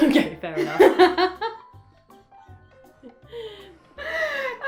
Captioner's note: laughter